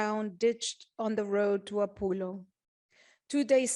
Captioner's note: speaking spanish